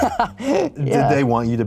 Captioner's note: laughs